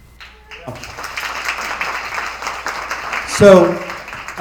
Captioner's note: attendees applauding